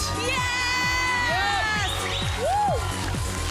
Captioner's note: audience cheering